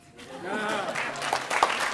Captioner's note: attendees laughing; attendees applauding